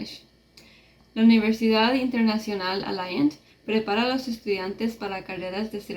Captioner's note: speaking in Spanish